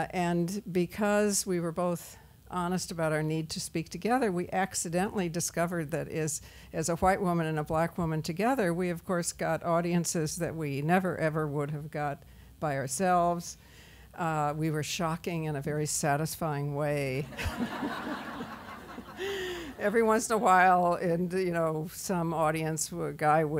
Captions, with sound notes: And because we were both honest about our need to speak together we accidentally discovered that is as a White woman and a Black woman together we of course got audiences that we never ever would have got by ourselves. We were shocking in a very satisfying way. (laughter) Every once in a while and some audience guy